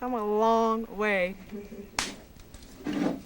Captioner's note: stick snaps